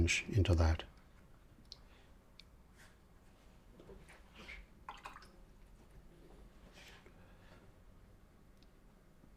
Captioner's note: silence